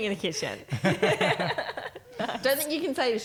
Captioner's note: laughing